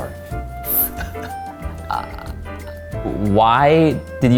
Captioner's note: laughs